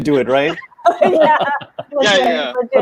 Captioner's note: laughing